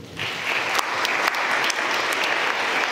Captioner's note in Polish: oklaski